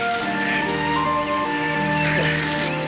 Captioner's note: chuckles